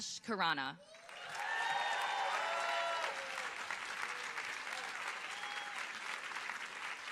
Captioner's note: audience applauding